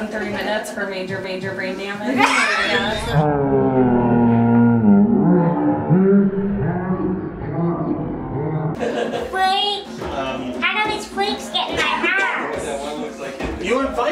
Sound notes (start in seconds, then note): 2.1 laughs; 2.4 distorted speaking